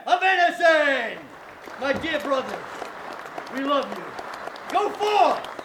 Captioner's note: applause